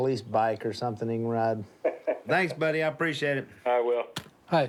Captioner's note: laughs